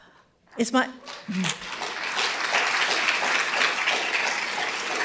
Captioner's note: audience applauding